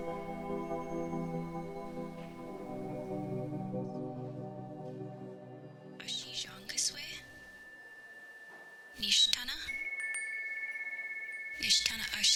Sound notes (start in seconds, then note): 6.4 voice whispers